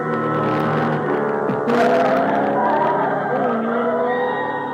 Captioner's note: tires squealing